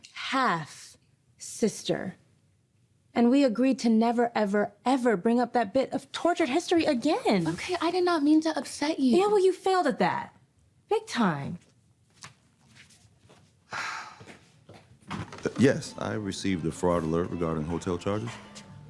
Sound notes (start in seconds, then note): 13.7 Chelsea sighing